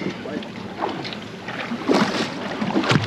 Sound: fish splashing

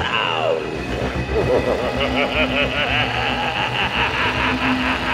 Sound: laughter

